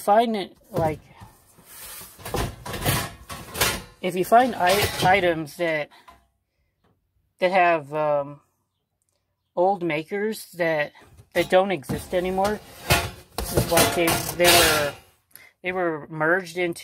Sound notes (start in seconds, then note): 2.0 thud of silver plate being rummaged around; 13.0 thud